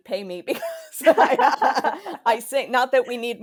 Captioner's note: both laugh